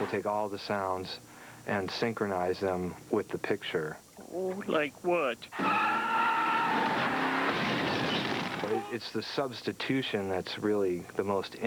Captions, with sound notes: WE'LL TAKE ALL THE SOUNDS AND SYNCHRONIZE THEM WITH THE PICTURE. LIKE WHAT? (tires screeching.) IT'S THE SUBSTITUTION THAT'S REALLY